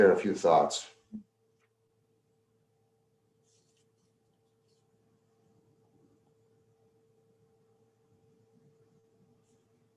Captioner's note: intentional silence as attendees answer poll question